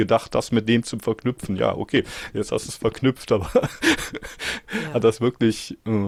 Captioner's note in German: gelächter